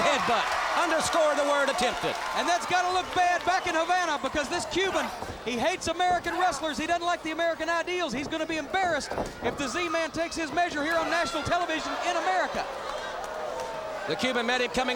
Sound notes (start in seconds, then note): 2.3 crowd cheering; 11.7 crowd cheering; 12.4 crowd chatter